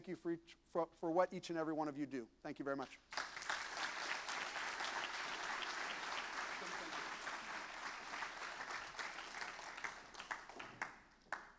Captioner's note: applause